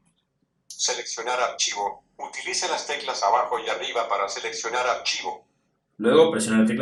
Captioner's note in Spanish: voz del dispositivo